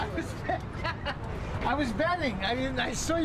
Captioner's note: laughing